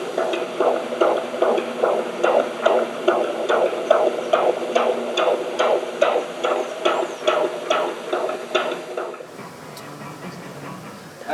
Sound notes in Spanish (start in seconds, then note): 1.8 Latidos de corazón